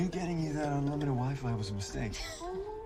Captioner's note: laughing